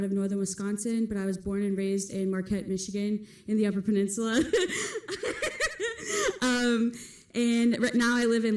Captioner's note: laughs